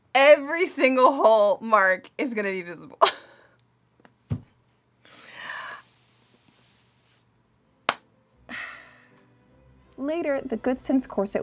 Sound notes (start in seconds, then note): 8.4 sighs